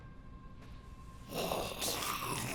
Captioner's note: growling